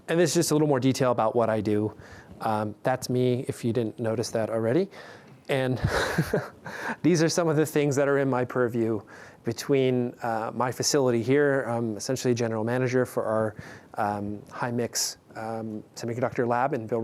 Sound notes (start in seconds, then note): 5.8 chuckling